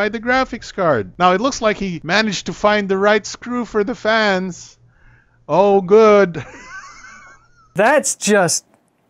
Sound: laughs

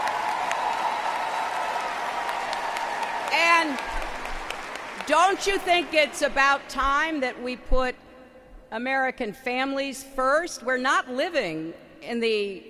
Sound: applause

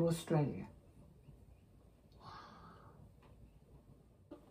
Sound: whispers

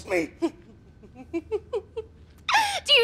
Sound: chuckling

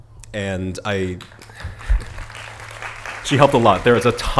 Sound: applause

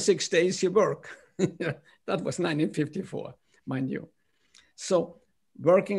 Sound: laughter

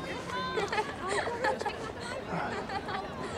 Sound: girls laughing loudly

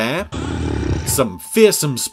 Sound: growls

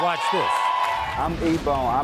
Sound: audience cheers

